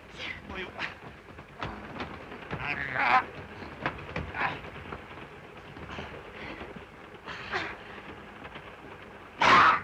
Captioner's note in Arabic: صوت خشخشة القطار; صوت صراع; صرخة دوبو